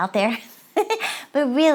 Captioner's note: laughs